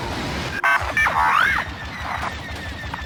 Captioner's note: beeps